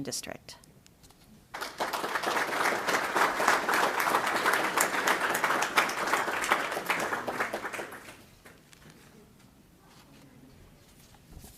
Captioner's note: applause